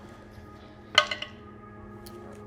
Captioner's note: die rolling